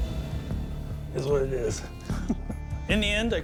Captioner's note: chuckles